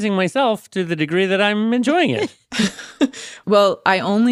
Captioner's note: laughs